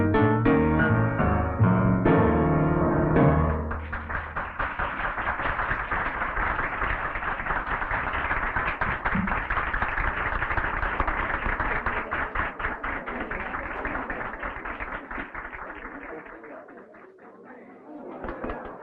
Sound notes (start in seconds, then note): 4.0 audience applauding; 13.6 patrons chattering